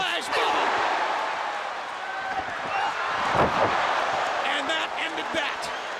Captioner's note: crowd cheering